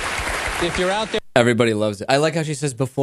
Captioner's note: applause